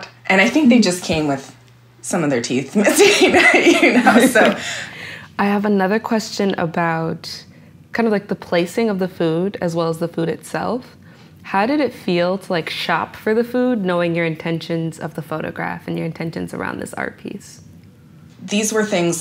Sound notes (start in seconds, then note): 2.9 laughter